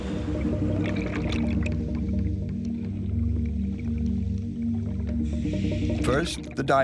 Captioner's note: water gurgling; gentle music